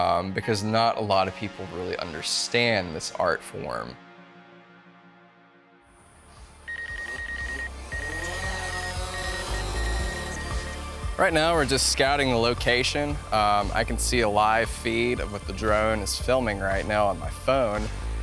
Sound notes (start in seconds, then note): 6.6 beeping; 6.8 spinning Blades